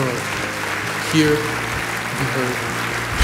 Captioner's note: applause